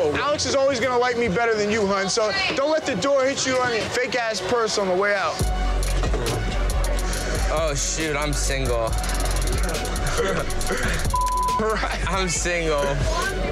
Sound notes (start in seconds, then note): 10.0 laughter